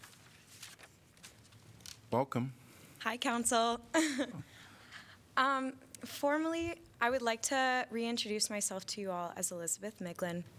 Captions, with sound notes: Welcome. Hi Council. [LAUGHTER]. Formally, I would like to reintroduce myself to you all as Elizabeth Miglin,